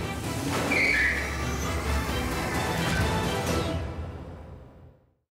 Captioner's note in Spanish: Chasquido de llantas